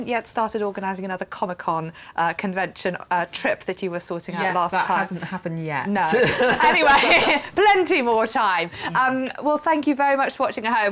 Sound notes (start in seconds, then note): 6.1 laughter